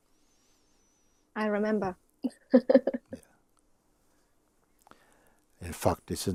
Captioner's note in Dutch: lacht